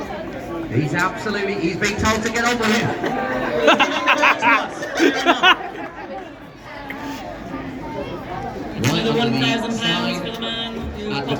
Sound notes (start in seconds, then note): 2.8 laughter